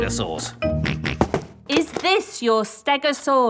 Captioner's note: snorts